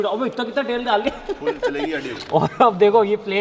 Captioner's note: laughing